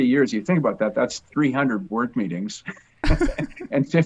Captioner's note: laughs